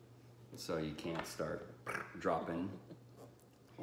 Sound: blows air

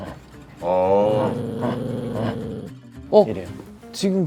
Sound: growling just to get attention; grrrrr

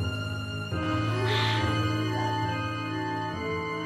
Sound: Pedrito exhales

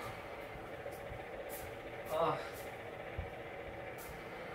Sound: the whirring sound of the electric fan left alone

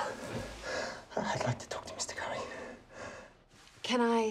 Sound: quietly

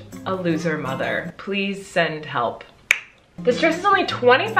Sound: smacks lips

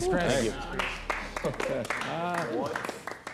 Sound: overlapping chatter

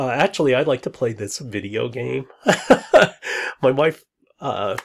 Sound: laughs

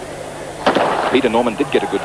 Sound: gun Firing, Race Begins

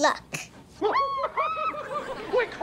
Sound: cheering

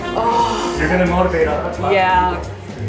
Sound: laughs

